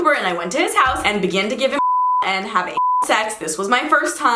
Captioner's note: beep